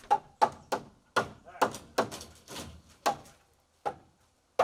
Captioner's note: hammer banging